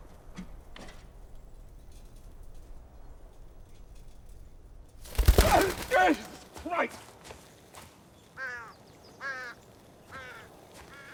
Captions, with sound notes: [wings flapping] - Jesus Christ! [bird cawing]